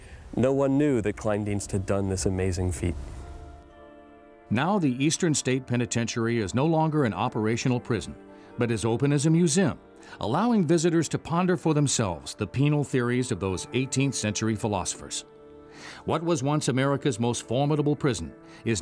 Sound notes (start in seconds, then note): 4.7 voiceover